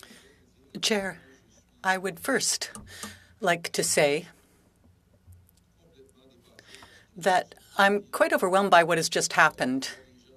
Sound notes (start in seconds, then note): 6.1 speaking French